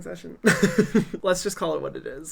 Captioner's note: laughs